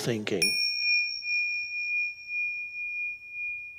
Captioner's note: bell dinging